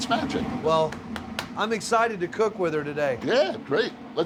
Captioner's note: taps oven